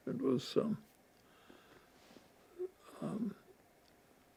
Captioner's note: pauses 12 seconds